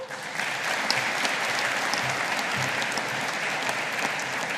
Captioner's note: audience applauding